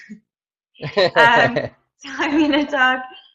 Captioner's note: both laughing